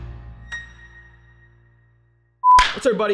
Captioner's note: logo dinging